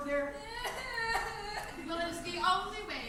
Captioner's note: Ermengarde cries